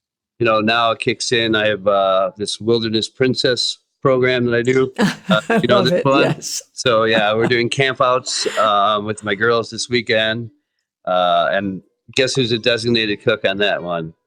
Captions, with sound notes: Tony now kicks in, I have this wilderness princess program that I do. (Laughing) Love it, yes. So yeah, we're doing camp outs with my girls this weekend, Tony and guess who's a designated cook on that one?